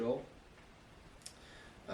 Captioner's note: smacks lips